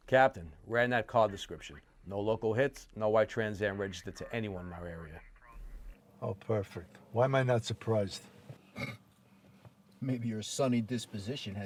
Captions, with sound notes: - Captain, ran that car description, no local hits, no white Trans Am registered to anyone in our area. - Oh, perfect. Why am I not surprised? (Argento scoffs) - Maybe your sunny disposition